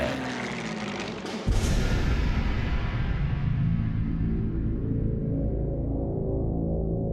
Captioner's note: plane engine roaring; dramatic music